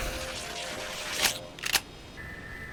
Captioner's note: electric buzzing; clicks